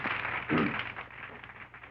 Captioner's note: clears throat